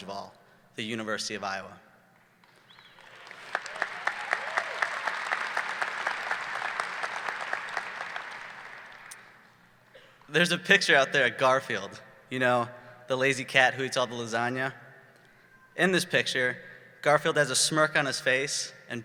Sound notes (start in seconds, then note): 2.4 audience clapping